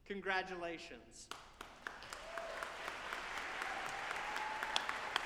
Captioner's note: audience applauding